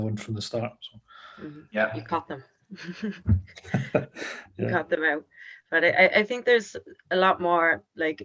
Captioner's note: laughing